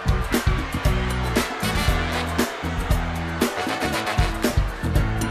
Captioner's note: crowd chatter